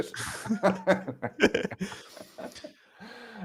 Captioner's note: laughter